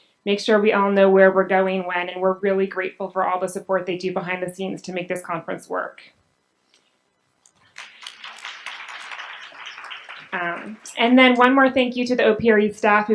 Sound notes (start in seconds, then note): 7.7 audience applauds